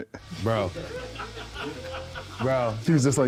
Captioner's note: crew laughing